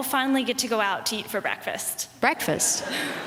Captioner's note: laughter